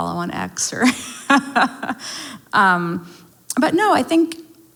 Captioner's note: laughs